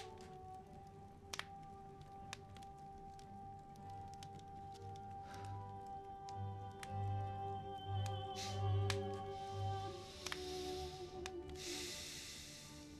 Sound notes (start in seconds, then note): 8.2 sighs